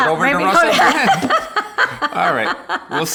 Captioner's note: laughing